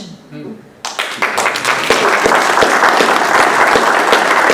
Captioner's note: applause